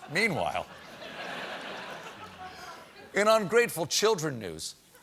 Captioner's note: laughter